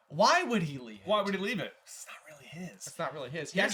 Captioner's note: whispered